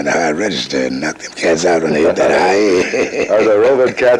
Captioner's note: laughs